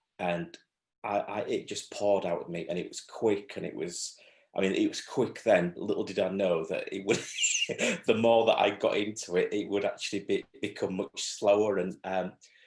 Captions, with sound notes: And it just poured out with me and it was quick and it was - I mean it was quick then, little did I know that it was. (LAUGHS) The more that I got into it, it would actually become much slower.